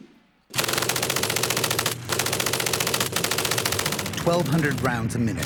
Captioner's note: machine gunfire